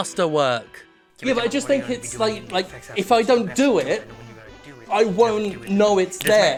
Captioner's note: off-screen voice muttering